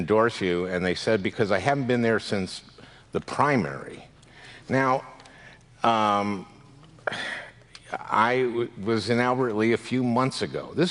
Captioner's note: sighs